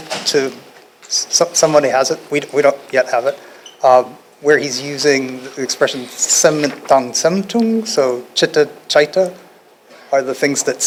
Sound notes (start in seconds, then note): 7.7 non-english speech